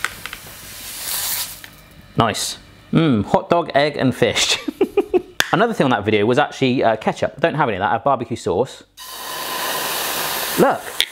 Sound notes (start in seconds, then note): 4.5 giggling; 10.8 sizzling